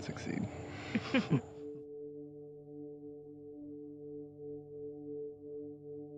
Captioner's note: parents chuckling; light music